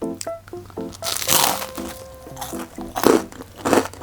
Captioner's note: crispy crunch